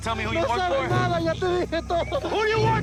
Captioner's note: screaming in Spanish